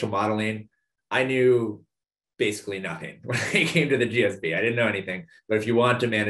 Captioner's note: laugh